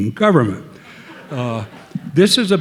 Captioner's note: audience laughing